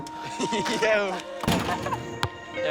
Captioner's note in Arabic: ضحك